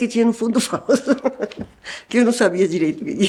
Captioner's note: laughter